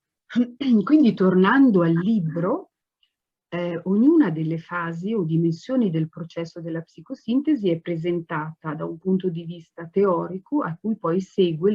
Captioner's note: speaks Italian